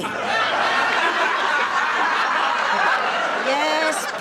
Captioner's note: audience laughing